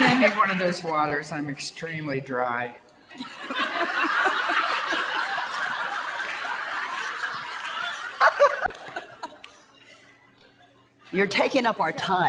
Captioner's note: audience laughter